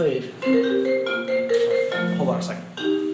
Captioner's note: Steve's phone rings